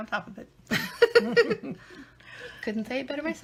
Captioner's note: laughing